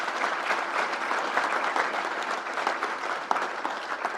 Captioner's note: crowd applauds